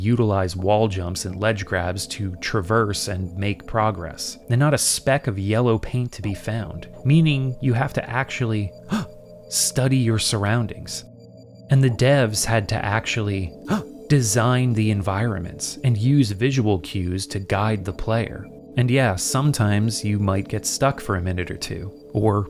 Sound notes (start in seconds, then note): 8.8 gasp; 13.6 gasp